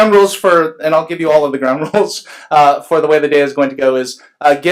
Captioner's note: laughs